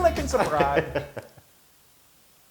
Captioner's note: laugh